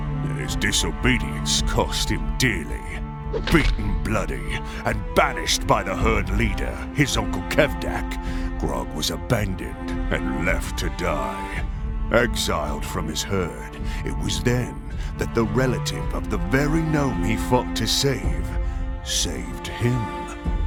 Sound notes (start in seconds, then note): 3.4 weapon crack